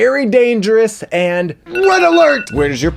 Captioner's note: bell ringing